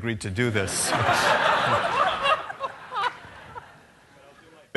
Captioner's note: laughter